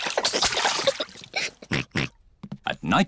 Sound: oinks

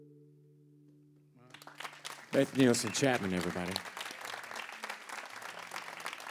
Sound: applause

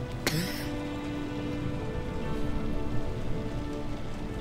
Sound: Rouge coughing

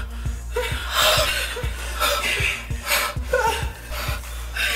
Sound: heavy breathing

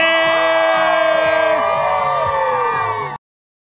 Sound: cheering

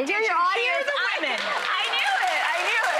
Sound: clapping

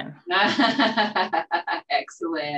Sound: laughs

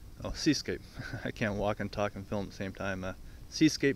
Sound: laugh

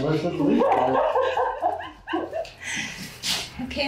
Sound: laughing

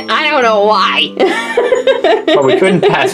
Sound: laughs

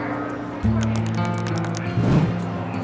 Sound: muted voices in background

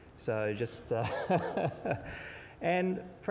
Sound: chuckling

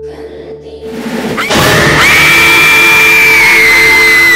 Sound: screaming

